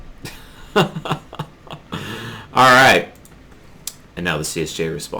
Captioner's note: laughter